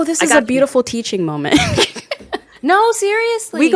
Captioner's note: laughs